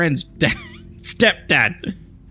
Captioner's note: laughs